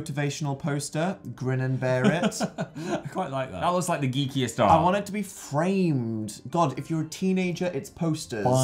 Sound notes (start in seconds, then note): 2.2 laughing